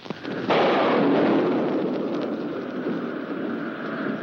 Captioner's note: thunder booms